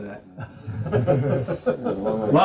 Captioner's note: laugh